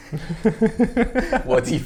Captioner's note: laughs